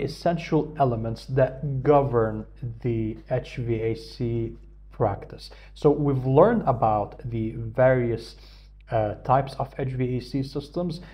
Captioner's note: hvac